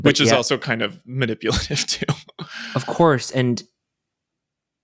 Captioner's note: chuckles